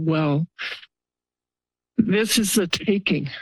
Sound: pause

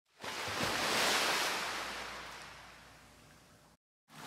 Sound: waves Crashing

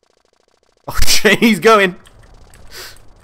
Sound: laughs

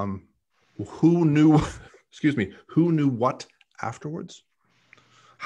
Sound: coughs

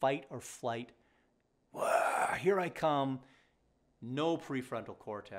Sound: roars

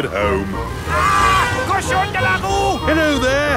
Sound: yells

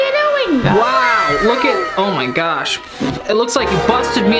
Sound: sputters

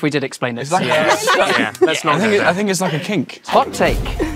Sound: group laughs

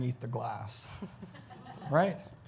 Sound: audience chuckles

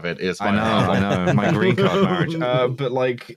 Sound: laughter

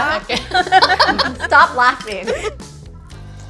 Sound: group laughing

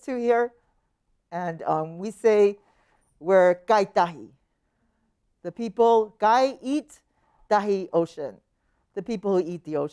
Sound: speaking her language

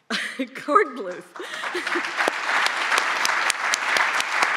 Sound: applause

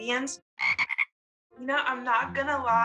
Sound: frogs croaking

